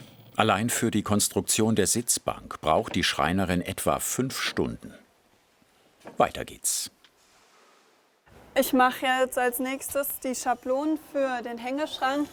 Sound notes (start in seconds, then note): none